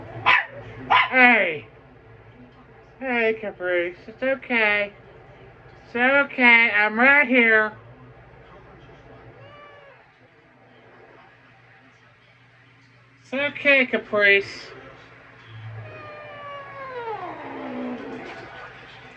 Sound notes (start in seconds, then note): 0.2 Ella barks; 15.5 growls